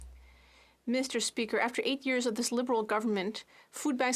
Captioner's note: speaking French